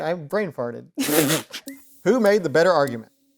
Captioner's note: laughing